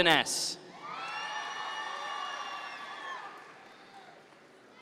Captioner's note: audience members cheer